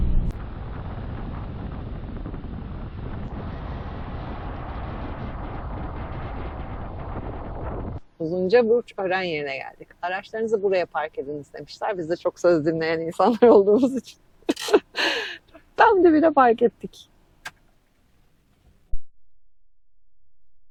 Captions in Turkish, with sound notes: Uzunca burç ören yerine geldik. Araçlarınızı buraya park edin demişler. Biz de çok söz dinleyen insanlar olduğumuz için [kahkaha] tam debine fark ettik.